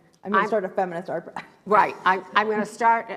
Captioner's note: laughs